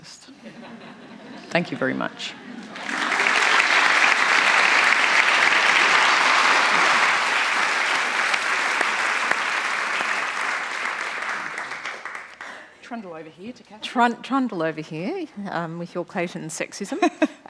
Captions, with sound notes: [ Laughter ] Thank you very much. [ Applause ] >> Trundle over here, with your Clayton sexism.